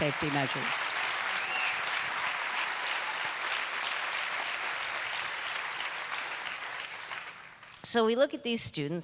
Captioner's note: applause